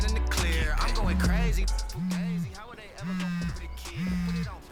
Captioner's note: phone Rings